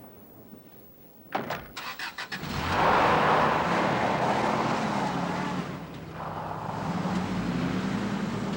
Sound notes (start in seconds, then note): 2.4 engine rumbling